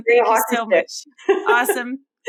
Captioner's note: laughing